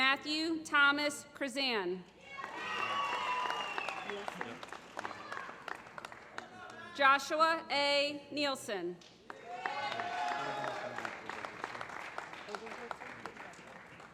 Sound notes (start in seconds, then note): 2.4 applause; 9.2 applause